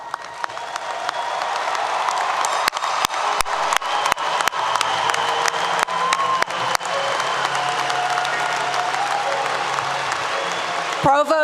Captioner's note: applause 👏 👏